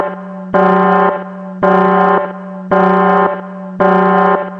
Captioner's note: alarm is ringing